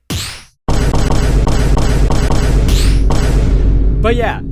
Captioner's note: VINE BOOM.mp3